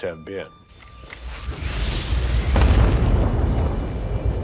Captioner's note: bombs exploding